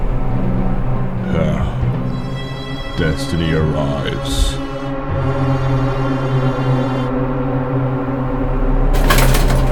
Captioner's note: evil noise